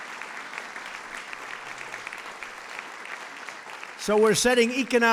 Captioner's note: applause